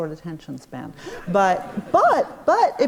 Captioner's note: audience laughs